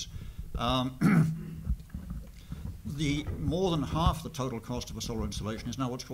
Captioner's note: cough